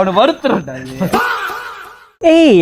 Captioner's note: shouting